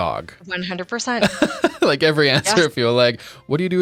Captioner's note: laughing